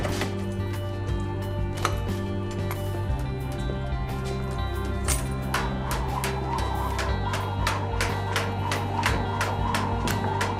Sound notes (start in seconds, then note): 4.9 zumbido de soga